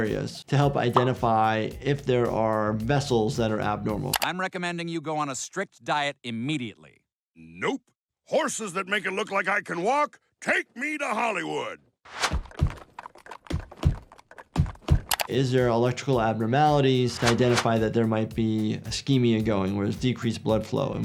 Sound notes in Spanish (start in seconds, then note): 12.4 caballos pisoteando